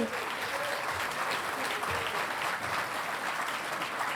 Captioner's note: audience applauding